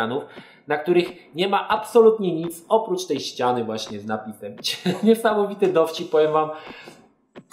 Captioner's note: giggles